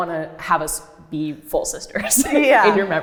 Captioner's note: laughs